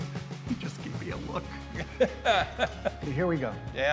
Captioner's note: laughs